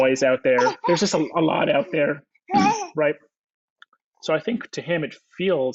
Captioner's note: clears throat